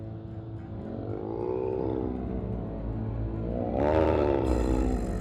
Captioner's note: werewolf growling